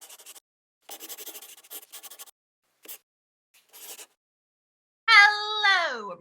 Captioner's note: the sound of a pen scratching